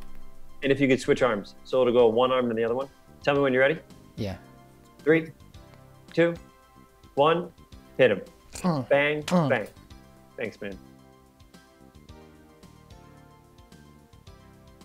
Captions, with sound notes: - And if you could switch arms, so it'll go one arm, then the other one. Tell me when you're ready. - Yeah. - Three, two, one, hit 'em. (grunts) Bang, bang. Thanks, man. (energetic music)